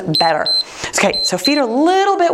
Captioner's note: timer beeps